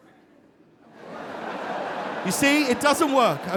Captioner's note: audience laughing